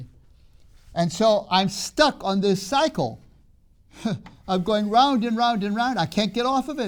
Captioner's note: laughs